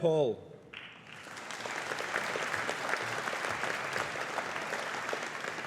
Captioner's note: audience applauding